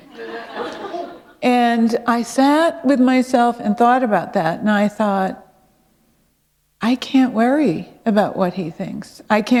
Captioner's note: laughter